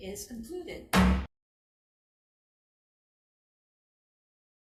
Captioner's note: gavel bangs